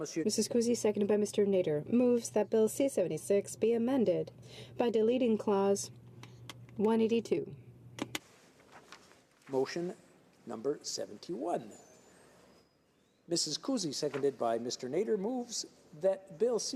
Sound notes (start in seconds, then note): 2.2 speaking French